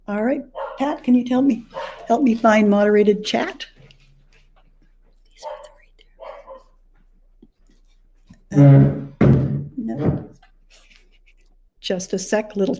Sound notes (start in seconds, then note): 6.2 dog barking